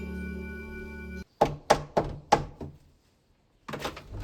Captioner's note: knocks on door